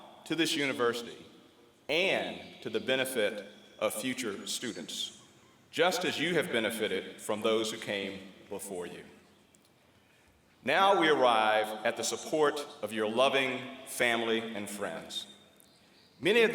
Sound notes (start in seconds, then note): none